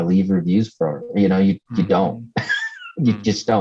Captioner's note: laughs